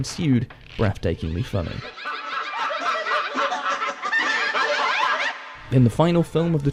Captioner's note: hysterical laughter